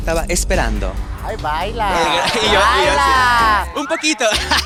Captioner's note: collective gag